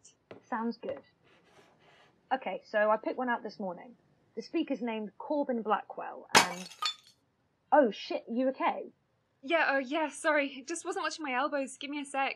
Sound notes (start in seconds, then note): 6.3 the sound of ceramic smashing